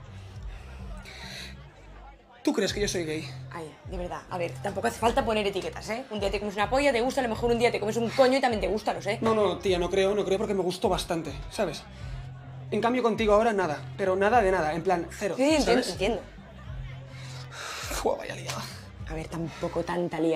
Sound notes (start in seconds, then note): 0.6 sighs; 17.3 huffs